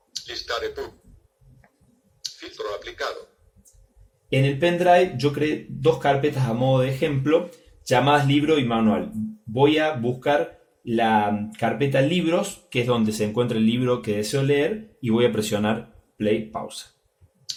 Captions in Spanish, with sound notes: "Listar epub" "Filtro aplicado" [voz del dispositivo] en el pendrive yo creé dos carpetas a modo de ejemplo llamadas "Libros" y "Manual" voy a buscar las carpeta "Libros" que es donde se encuentra el libro que deseo leer y voy a presionar play/pausa